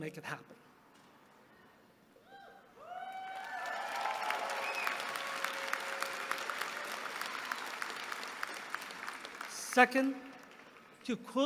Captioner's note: applause